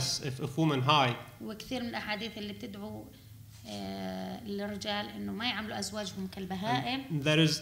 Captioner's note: speaking arabic